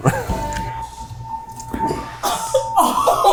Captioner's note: laughs; fire alarm beeping; laughing